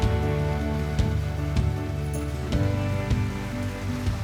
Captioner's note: water splashing